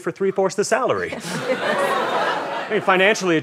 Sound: audience laughter

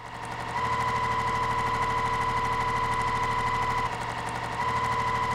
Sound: sewing machine whirring

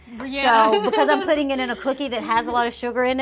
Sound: laughs

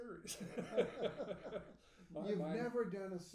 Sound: laughing

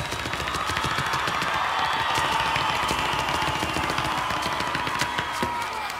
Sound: audience cheers and applauds

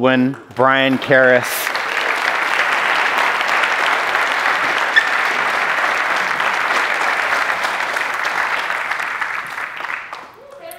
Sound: applause

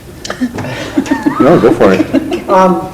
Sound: laughter

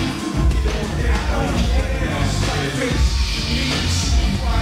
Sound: crowd cheering

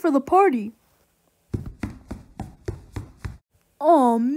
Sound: footsteps Running

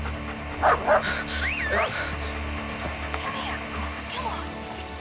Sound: barking

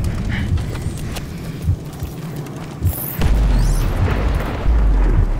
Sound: slow heart beat

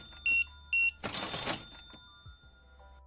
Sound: beeping

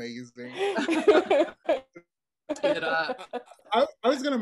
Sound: laughing

